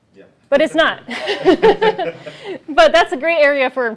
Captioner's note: laughter